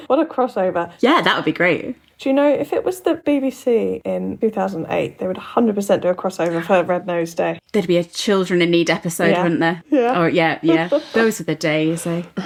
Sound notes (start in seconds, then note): none